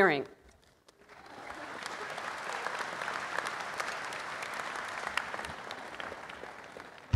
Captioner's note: applause